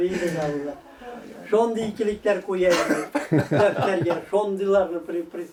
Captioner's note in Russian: Смех